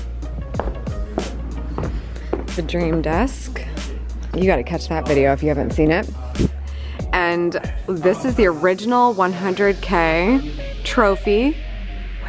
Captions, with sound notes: (heels clacking) The dream desk, you've gotta catch that video if you haven't seen it. And this is the original 100K trophy